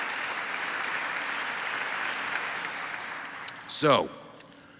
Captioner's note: audience applauds